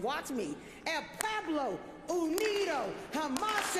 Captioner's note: applause